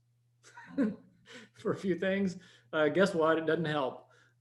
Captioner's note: chuckles